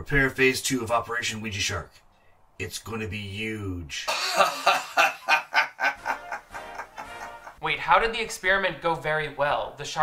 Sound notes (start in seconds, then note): 4.0 man laughing; 5.9 triumphant music